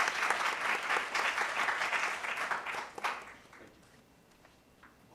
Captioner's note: applause